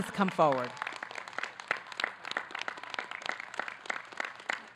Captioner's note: audience clapping